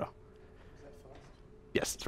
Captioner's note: voiceover